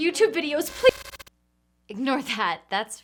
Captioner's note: static crackling